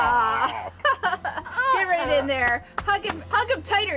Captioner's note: chuckles